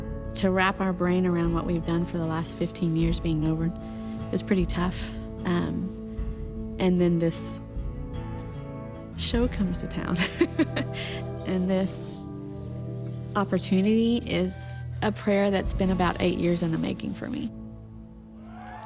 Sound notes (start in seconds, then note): 10.2 laughs